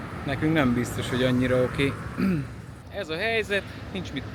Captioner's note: clears throat